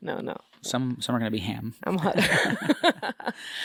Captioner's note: laugh